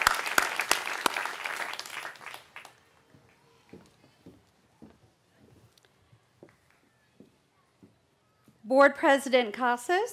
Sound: cheering

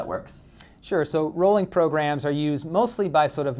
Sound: voiceover

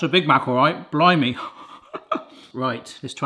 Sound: laughs

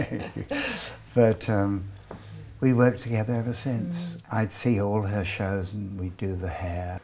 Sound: laughing

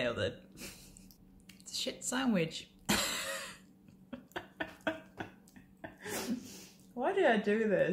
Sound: laugh

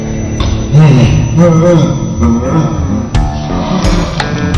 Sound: distorted audio

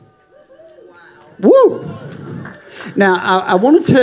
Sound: congregation cheering

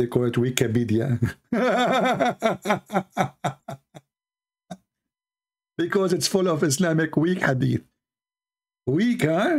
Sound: Ketawa

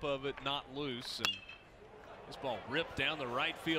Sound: crack of bat

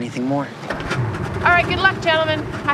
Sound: engine revving

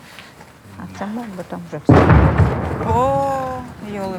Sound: sound of explosion

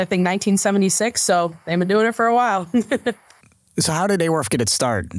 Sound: laughs

